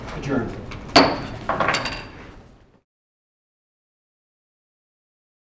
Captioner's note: gavel bang